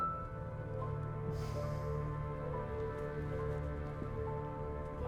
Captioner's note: soft dramatic music continues; Arawn breathes deeply